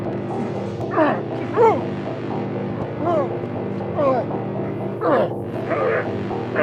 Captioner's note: suspenseful music; both grunting